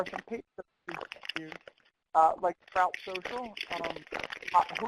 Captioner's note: audio skips and warps